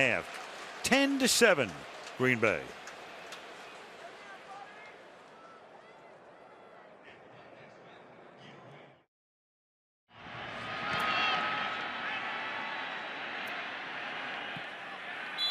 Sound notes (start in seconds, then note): 7.5 pa announcement